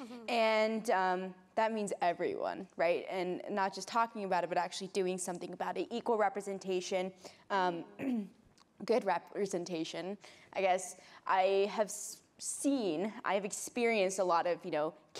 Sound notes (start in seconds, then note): 8.0 clears throat